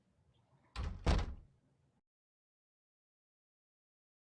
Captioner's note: door closes